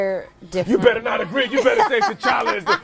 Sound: laughing

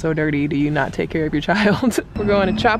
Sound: chuckles

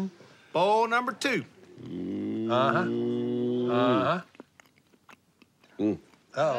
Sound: growls

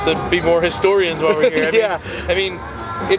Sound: chuckles

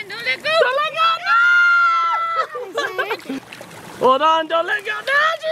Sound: screaming

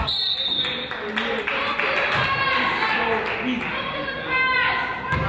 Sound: whistle blows; crowd applauds; coach yells

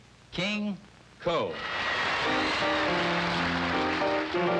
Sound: audience applauding; piano music

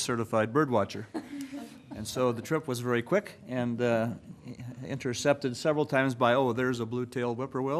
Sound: laughter

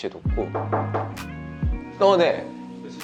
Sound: knock, knock

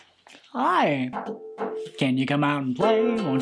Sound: knocks on ukulele

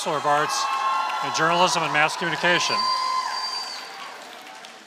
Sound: applause

